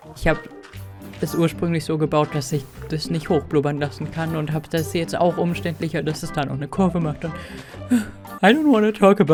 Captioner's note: sigh